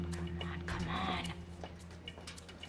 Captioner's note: whispered